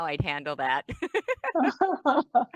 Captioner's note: laughs